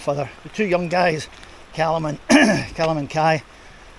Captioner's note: cough